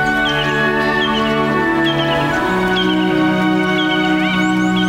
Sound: birds chirping

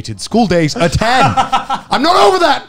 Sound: laughs

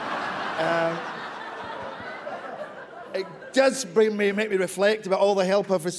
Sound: laughter

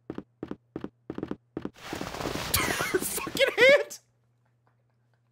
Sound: laughs

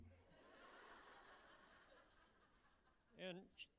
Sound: laughter

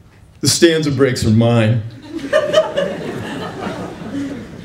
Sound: laughter

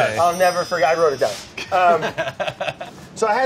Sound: laughter

